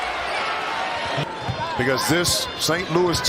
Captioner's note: crowd noise